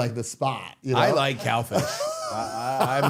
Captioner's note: Matt laughing